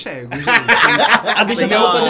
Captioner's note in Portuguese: risos